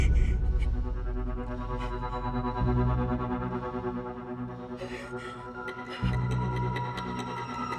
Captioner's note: Jane pants